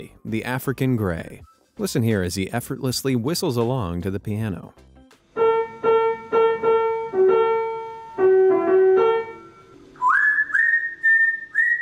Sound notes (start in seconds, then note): 5.3 piano playing; 5.3 mimicking tune